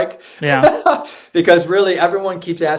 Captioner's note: laughing